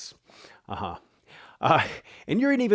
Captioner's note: chuckling